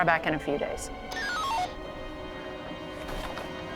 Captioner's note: radio beeps; suspenseful foreboding music